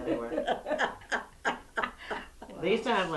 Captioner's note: laughter